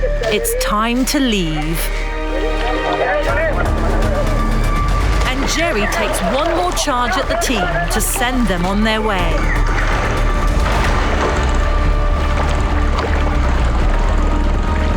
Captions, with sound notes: It's time to leave. (dramatic music) And Jerry takes one more charge at the team to send them on their way. (men yelling)